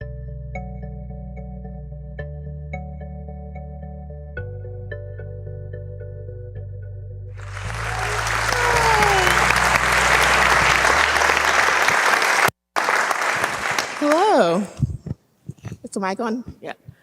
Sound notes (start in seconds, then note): 0.0 peaceful music; 7.4 audience applauding